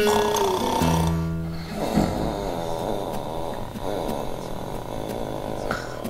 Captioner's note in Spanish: snoring